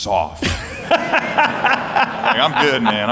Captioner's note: laughter